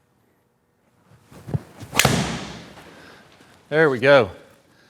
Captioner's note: golf club smacks